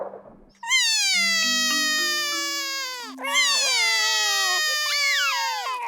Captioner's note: both crying